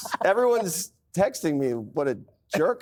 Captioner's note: laughter; laughs; laughter